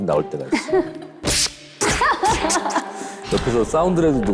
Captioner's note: psst! puff! fwoosh!